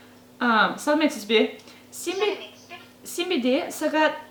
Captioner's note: in Kazakh